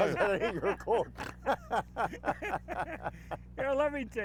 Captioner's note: laugh